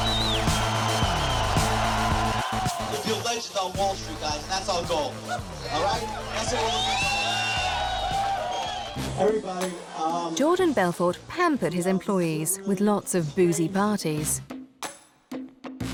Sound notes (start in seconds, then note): 6.8 crowd cheering